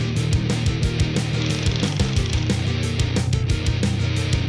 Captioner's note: tape rolling